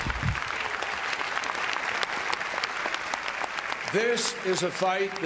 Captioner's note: applause